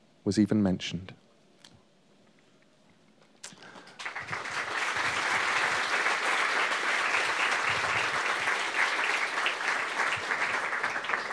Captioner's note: applause